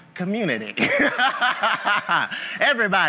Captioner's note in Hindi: हँसी